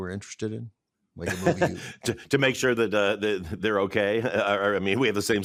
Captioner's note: chuckles